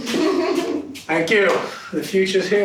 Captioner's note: laughing